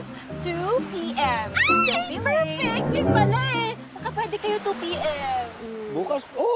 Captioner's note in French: squeals